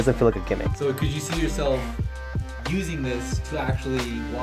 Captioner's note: voiceover